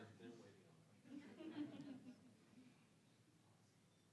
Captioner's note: audience chuckling